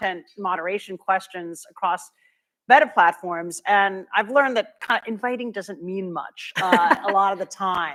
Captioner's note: laughter